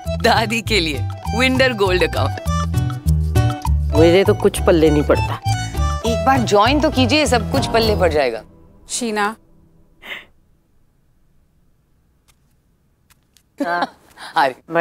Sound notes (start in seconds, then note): 10.0 gasps; 12.2 footsteps; 13.6 laughs